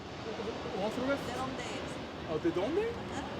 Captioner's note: speaking Spanish